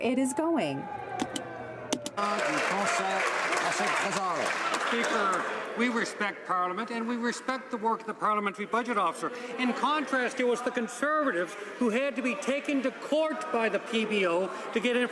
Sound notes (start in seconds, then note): 5.7 some Applause